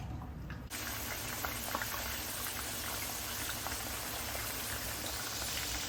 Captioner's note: frying asmr